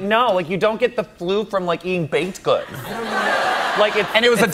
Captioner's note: laughter